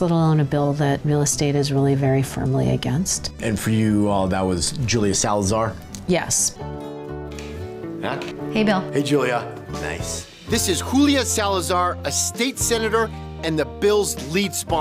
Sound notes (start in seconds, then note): none